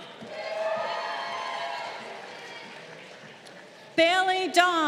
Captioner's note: crowd cheering